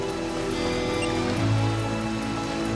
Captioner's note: beeps